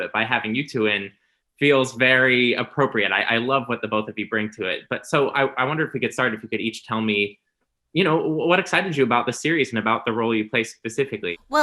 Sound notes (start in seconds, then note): none